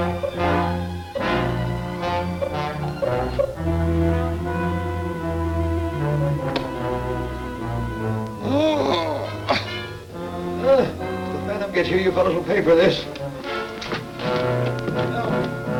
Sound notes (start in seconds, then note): 8.3 groaning